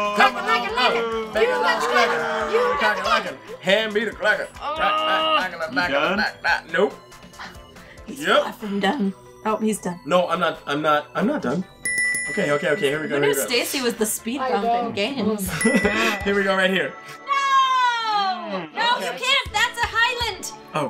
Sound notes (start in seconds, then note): 11.8 dinging; 15.3 laughs; 15.6 dings